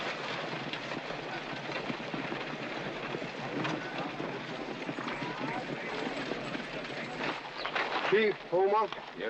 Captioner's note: crowd noises